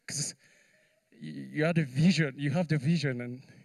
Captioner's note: none